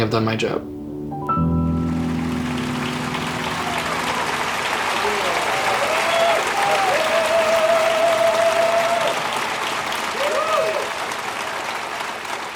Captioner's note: applause